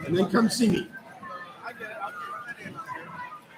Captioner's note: chatter